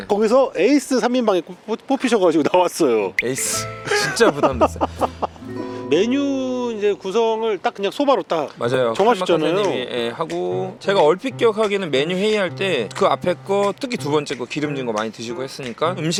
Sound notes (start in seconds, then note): 3.8 sigh